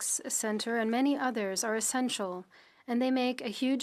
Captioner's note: speaking French